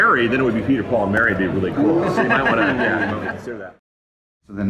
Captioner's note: laughter